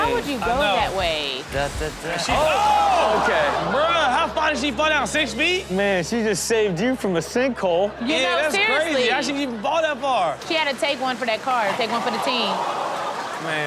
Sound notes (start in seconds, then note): 2.3 audience groans; 8.1 audience laughs; 11.4 audience gasps